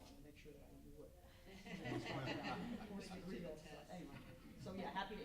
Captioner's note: laughing drowns out speaking